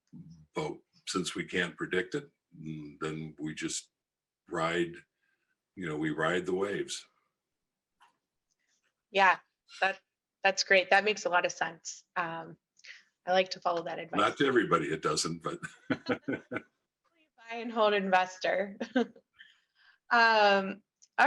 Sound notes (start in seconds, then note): 16.0 all laugh; 19.0 laughs